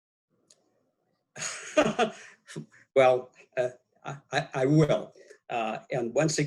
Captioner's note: laughs